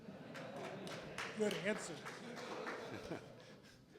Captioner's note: Crowd laughs, Venter chuckles